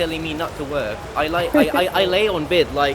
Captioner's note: laughs